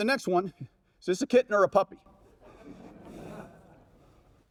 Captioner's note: audience laughs